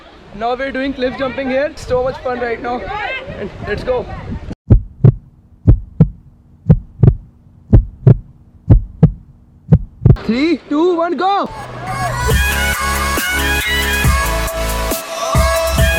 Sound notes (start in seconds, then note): 4.8 hearbeat